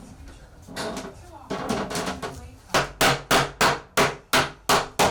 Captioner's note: wood squeaking; hammering